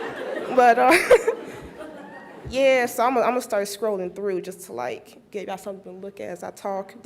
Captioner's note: laughs